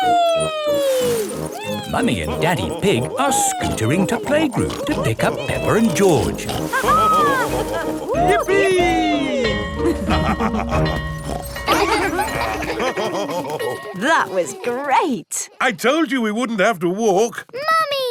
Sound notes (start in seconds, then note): 7.6 both laughing; 9.9 school bell ringing; 10.2 daddy pig snorts; 12.8 children laughing; 12.8 daddy pig laughing